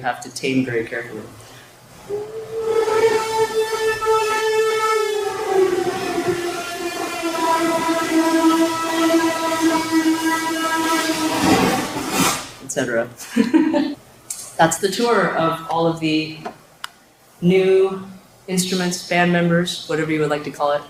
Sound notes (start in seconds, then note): 2.2 distortion